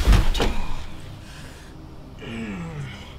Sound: BEN grunts in pain

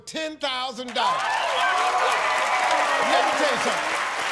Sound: cheers and applause

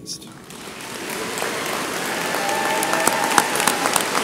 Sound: audience applauds

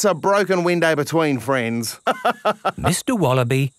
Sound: laughs

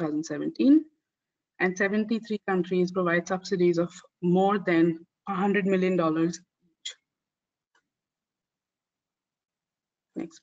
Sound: audio static

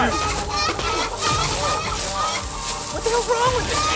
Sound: chicken gargling

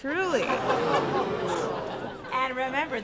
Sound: laughter and murmurs

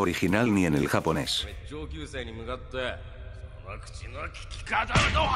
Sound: in Japanese

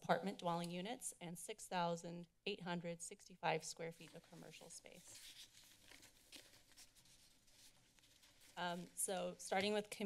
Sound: papers rustling

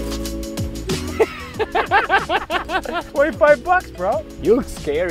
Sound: laughs

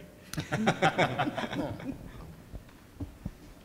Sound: laughing

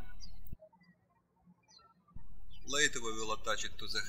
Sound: birds chirping

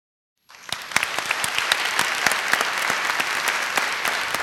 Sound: applause

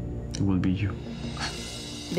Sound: sighs

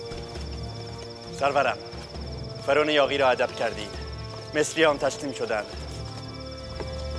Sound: Xerxes speaking in foreign language; Mardonius speaking in foreign language

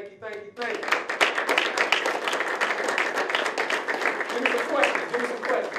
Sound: applause

